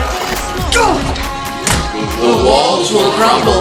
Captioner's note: Portal Sound Effect